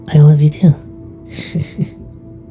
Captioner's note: Vixen giggles